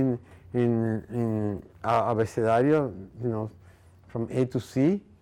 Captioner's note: speaking in foreign language